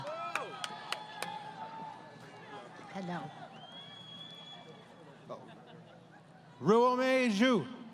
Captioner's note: applause